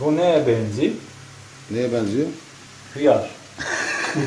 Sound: laughter

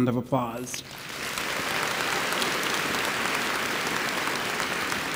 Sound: audience applauds

